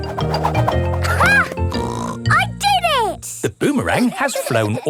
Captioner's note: snorts